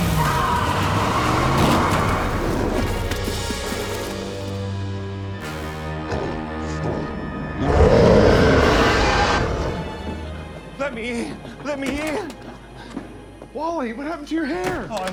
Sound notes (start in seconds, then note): 0.0 engine revs; 0.0 tires squeal; 1.3 car hits with heavy thud; 3.7 menacing, dark music; 7.5 Loki roars ferociously